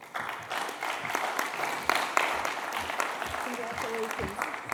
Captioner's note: applause